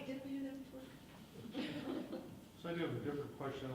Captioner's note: laughing